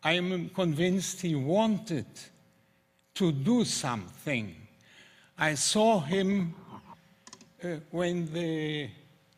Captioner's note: german